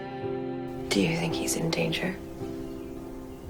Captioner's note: voiceover